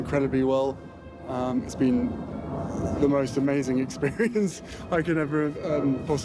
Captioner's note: laughs